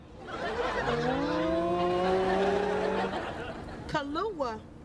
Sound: laughing

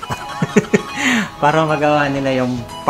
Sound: giggling

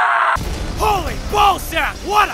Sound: boom

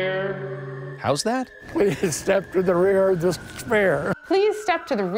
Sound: laughs

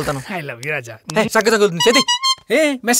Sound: message tone

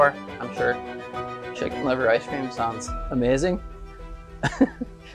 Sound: laughs

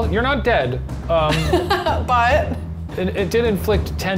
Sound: laughs

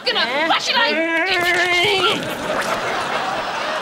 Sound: muttering

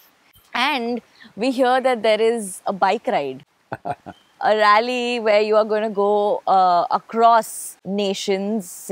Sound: Sadhguru laughs

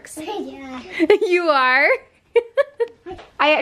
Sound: laughs

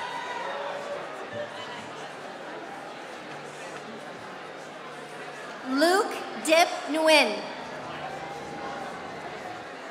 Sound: applause

